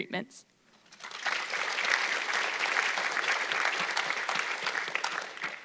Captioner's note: audience clapping